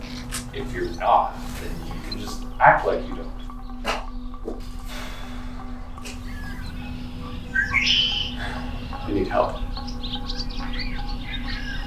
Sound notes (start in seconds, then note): 6.2 songbird; 7.5 sigh; 10.8 songbird